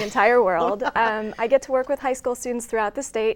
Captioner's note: laughs